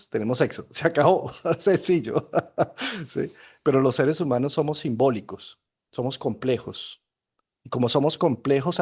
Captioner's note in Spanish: risas